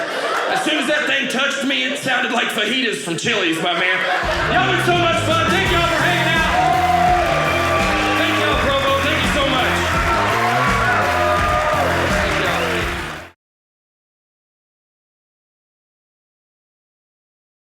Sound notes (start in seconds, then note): 6.7 audience cheering; 10.2 audience cheering